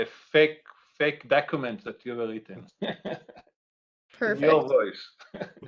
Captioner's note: laughing